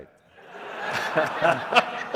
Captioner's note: laughter